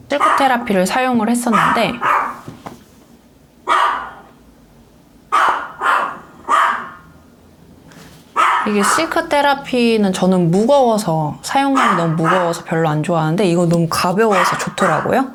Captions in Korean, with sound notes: 실크테라피를 사용을 했었는데 [개 짖는 소리] 실크 테라피는 저는 무거워서 사용감이 너무 무거워서 별로 안좋아하는데 이거 너무 가벼워서 좋더라구요